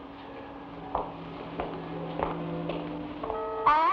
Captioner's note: heels clack